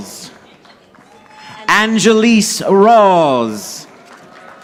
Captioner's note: audience applauding